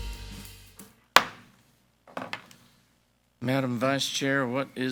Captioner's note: gavel bangs